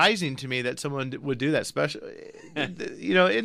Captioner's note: laughs